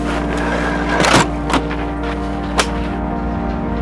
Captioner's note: door thuds